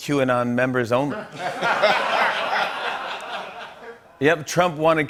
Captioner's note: laughter